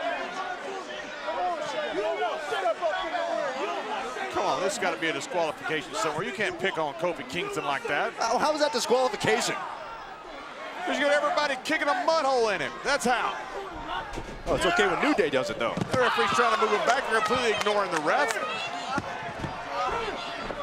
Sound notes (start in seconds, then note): 0.8 wrestlers bickering